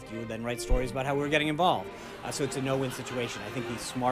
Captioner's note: raucous laugh track